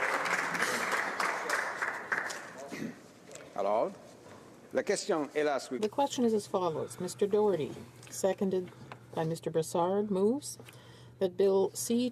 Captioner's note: applause